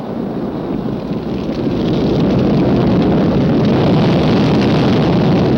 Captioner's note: fire whooshing